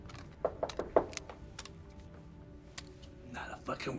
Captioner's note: door knocking